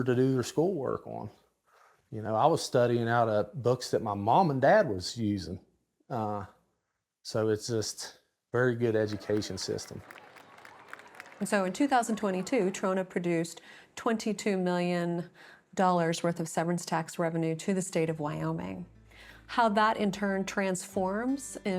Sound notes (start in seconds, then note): 8.8 audience applauds